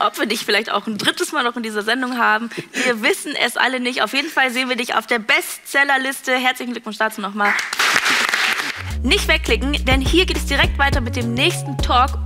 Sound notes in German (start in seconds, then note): 7.4 Applaus